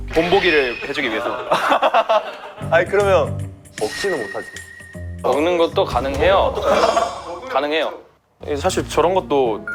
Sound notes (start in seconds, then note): 6.6 only laughter comes out